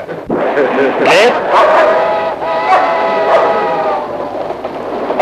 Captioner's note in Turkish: Köpek havlamaları